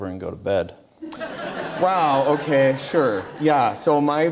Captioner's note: audience Laughter